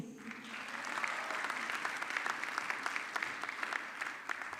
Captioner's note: audience clapping